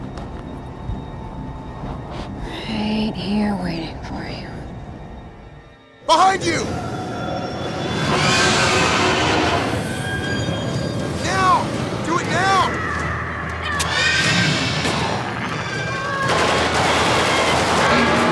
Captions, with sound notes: RIGHT HERE WAITING FOR YOU. BEHIND YOU! [ CREATURE ROARS ] NOW! DO IT NOW! [ GRUNTS ] [ GUNFIRE ]